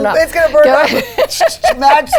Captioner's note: laughing